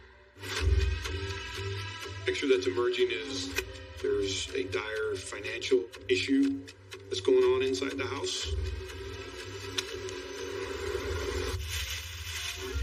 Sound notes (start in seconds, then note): 8.4 clock ticking; 11.5 plastic rustling